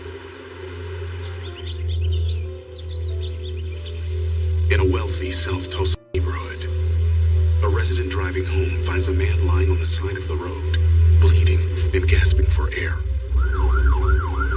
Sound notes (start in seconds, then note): 0.2 ominonous music; 2.4 birdsds chirping